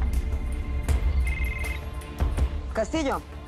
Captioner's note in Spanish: Suena el celular